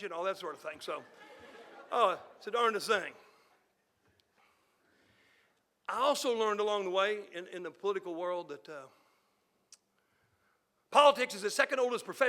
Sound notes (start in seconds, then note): 1.0 audience laughing